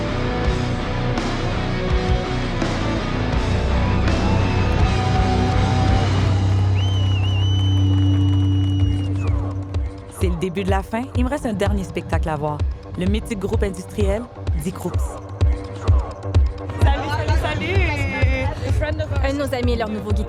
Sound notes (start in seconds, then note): 0.2 rock music; 4.2 cheers